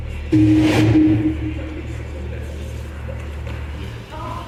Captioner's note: radio statics